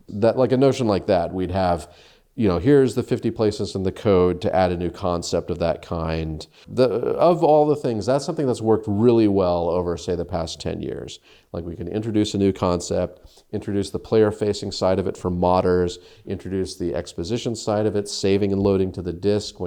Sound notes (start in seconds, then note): none